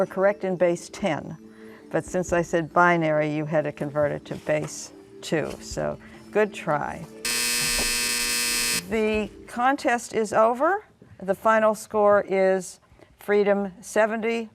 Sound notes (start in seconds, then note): 5.7 buzzer